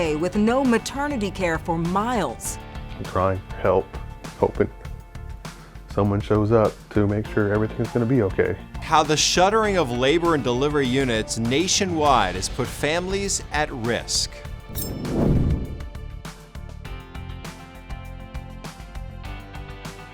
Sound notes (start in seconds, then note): 14.6 logo whooshing; 16.8 upbeat music